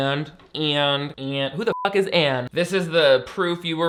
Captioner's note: beep